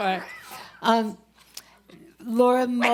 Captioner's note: laughs